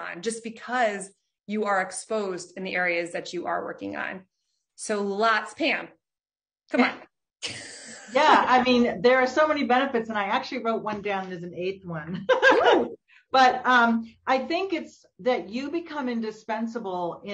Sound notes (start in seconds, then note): 12.2 both laughing